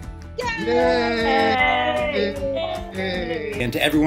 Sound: everyone cheering

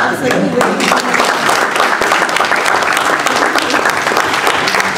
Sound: applause

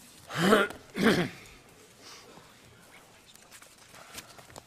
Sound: clears throat loudly

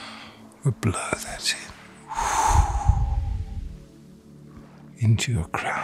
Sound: blows

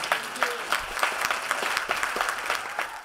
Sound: applause

